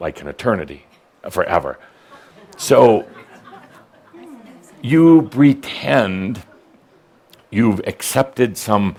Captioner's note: a few giggles